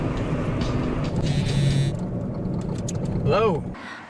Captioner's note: phone buzzing